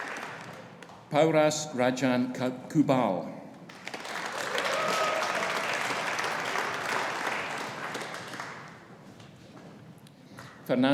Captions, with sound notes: Pauras Rajan Kubal. (AUDIENCE APPLAUDING) (AUDIENCE CHEERING)